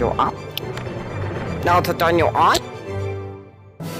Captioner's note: click